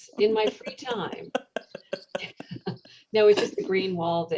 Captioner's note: laughter